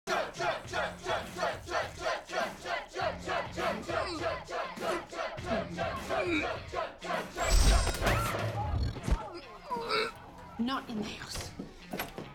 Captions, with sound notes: Chug, chug, chug, chug, chug, chug! [GROANING] [YELLS] Ulp--! Not in the house.